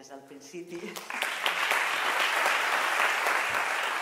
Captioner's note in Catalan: Aplaudiments